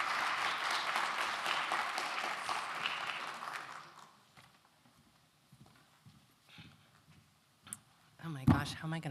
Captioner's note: applause